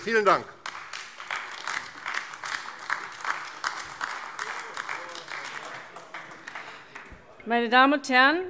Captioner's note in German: Beifall AfD